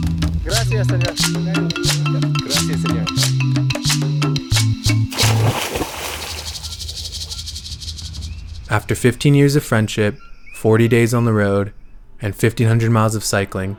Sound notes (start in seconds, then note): 0.7 speaking foreign language; 4.7 water splashes; 5.1 maracas shakes